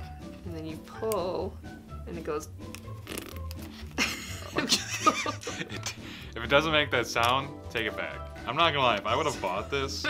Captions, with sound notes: and then you pull and it goes [fart noise] [Laughing] - If it doesn't make that sound take it back. I'm not gonna lie if I would of bought this